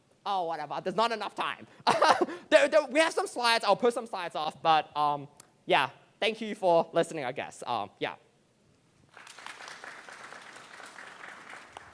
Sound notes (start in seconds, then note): 1.9 chuckles; 9.0 applause